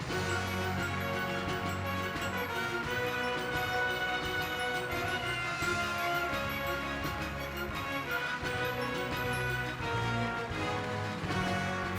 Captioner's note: applause